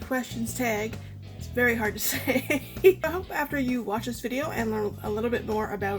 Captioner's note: laughs